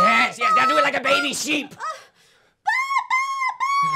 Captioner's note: Leah yells out nonsense gibberish until she's out of breath